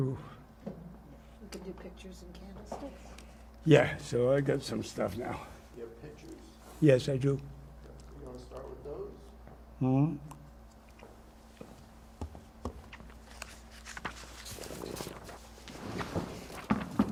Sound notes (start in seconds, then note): 7.4 drinking